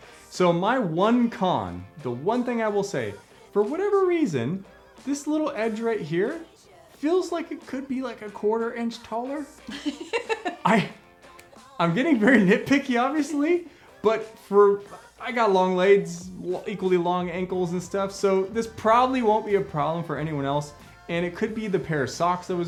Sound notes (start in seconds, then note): 9.6 laughing